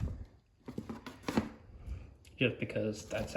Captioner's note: shuffling